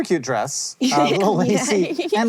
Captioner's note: chuckles